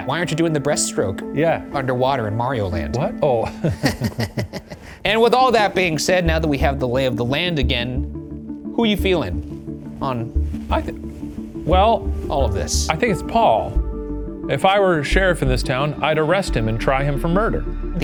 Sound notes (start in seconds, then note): 3.4 chuckling